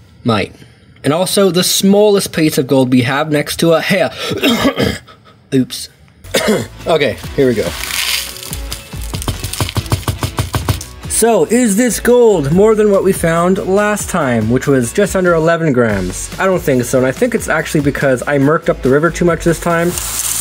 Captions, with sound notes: Mate. And also, the smallest piece of gold we have next to hair -- *coughs* Oops. Okay here we go. So is this gold more than what we found last time which was just under 11 grams. I don't think so and I think it's actually because I merked up the river too much this time,